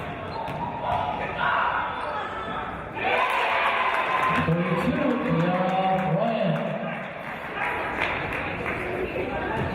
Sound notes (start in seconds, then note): 3.2 applause